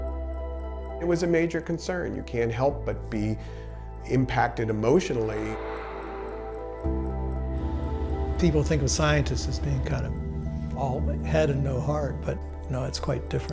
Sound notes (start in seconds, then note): 5.1 water spraying; 7.3 plane engine whirring